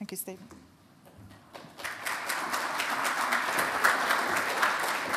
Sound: audience applauds

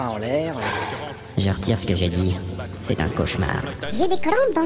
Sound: sigh

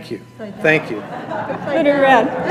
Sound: laughter

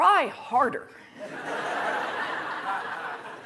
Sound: laughter

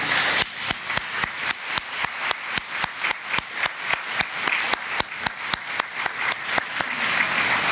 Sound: clapping

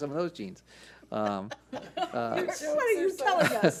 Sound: board laughs

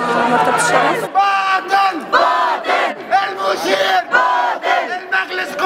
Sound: chants

